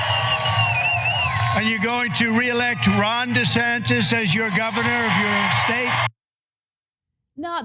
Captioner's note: applause